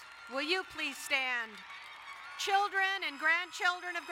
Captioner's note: crowd cheering and applauding